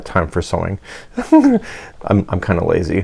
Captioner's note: giggles